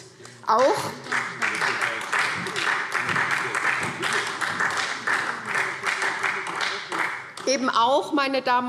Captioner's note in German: Beifall SPD